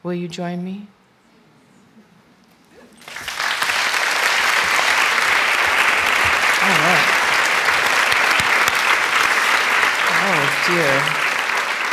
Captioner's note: applause